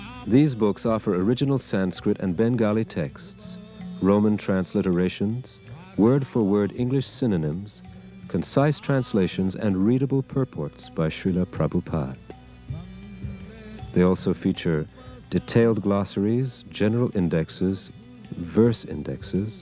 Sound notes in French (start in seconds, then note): 7.6 aussi en français